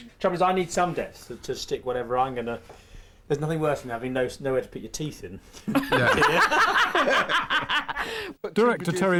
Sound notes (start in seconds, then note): 5.6 laughter